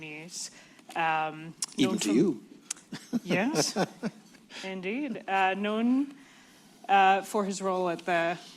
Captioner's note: laughs